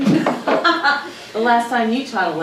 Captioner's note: Crystal laughing